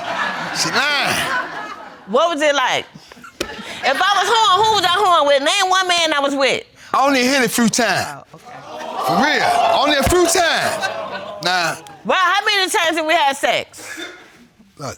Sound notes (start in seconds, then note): 0.0 audience laughing; 7.0 audience exclaims